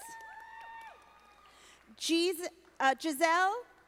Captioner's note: audience applauding